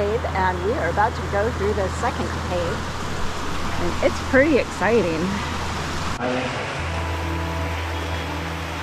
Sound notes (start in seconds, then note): 5.2 sounds of rushing water